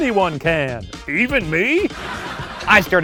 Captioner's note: audience laughing